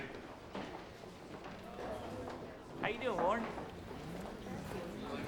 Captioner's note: courtroom chatter